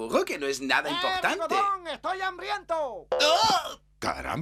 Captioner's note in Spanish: grita